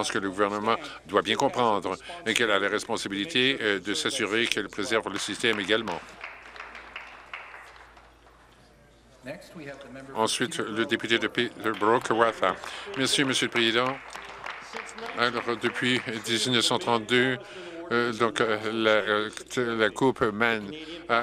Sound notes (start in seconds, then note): 8.2 some Applause